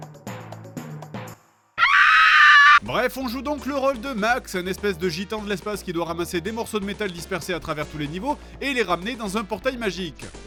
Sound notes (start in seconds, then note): 1.8 screams